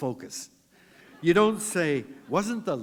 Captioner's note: laughter